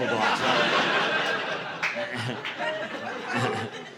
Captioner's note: audience laughing